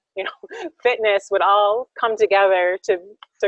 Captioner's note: laughs